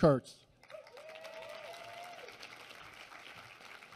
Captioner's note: applause